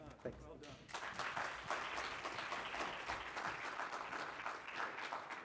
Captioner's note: congregation clapping